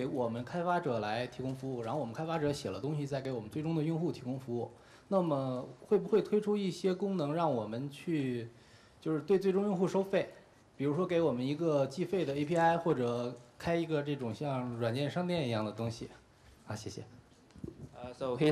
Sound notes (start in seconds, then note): 5.7 speaking in Chinese